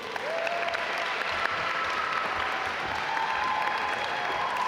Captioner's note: audience applaud